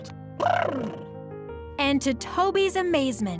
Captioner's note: monster trills lips